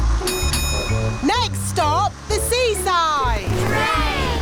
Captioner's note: bell dings